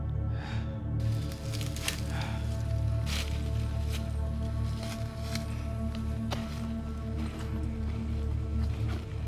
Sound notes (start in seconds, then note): 3.2 leaves rustling; 3.2 ominous music